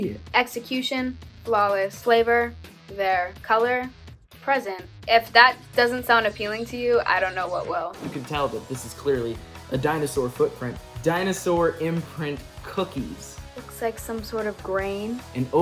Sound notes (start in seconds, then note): 8.0 loud whooshing